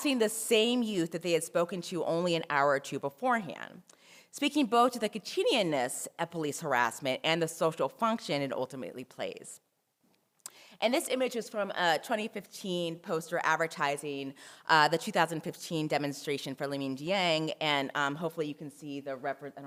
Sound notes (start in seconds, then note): 5.4 french